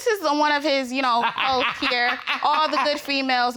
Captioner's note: laughing